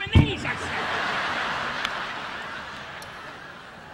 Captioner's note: audience laughing